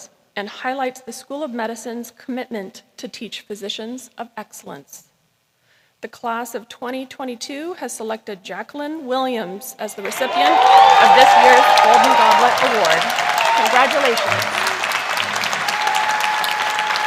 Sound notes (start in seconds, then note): 12.7 cheering; 14.4 applause; 14.4 cheering